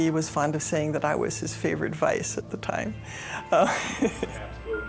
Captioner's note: laughing